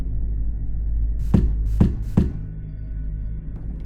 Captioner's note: knock knock knock